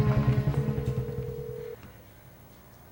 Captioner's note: phone ringing